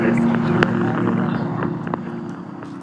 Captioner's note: inhales; exhales